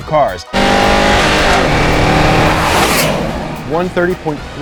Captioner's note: engine revving